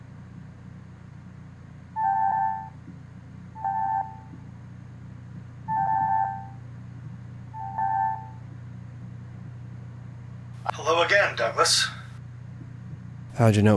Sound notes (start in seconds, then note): 2.4 phone rings